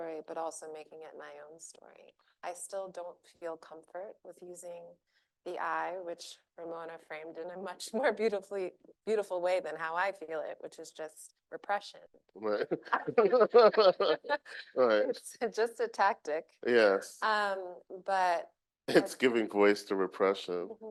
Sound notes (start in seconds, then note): 12.4 laughing